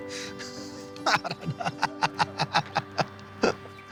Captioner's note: he laughs